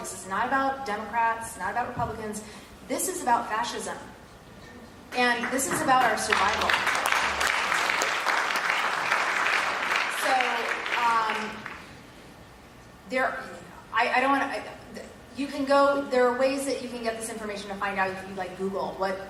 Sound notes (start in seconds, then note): 8.0 applause